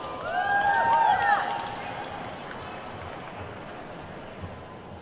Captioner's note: attendees whooping and clapping